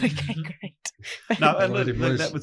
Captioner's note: laughs